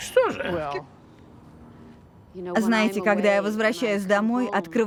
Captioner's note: laughs